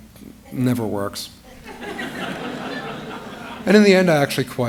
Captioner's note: laughter